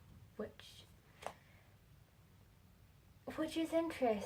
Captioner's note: flips pages